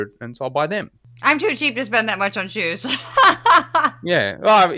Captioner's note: laugh